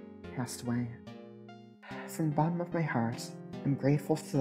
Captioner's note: sigh